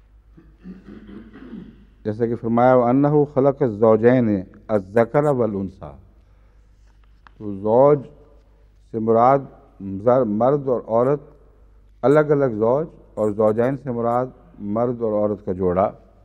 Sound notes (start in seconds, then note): 4.6 Arabic